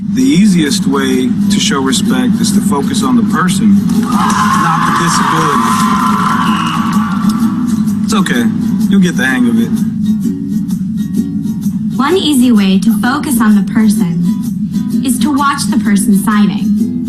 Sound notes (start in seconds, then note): 3.8 audience cheering